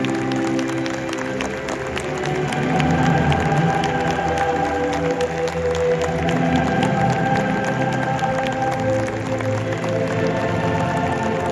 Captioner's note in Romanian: Aplauze